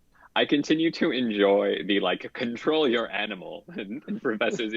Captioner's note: laughs